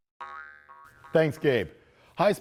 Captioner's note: ball boinging